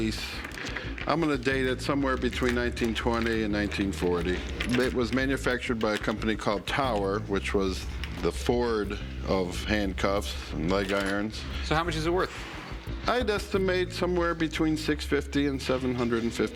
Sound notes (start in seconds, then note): none